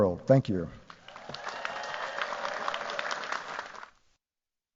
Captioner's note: cheers, applause